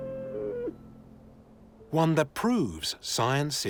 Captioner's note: yak bleats